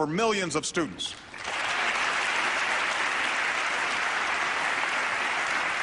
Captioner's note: applause